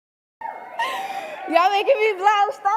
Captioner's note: giggling